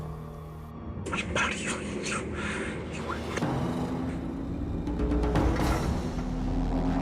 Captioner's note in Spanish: Entre dientes